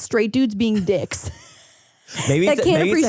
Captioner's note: laughs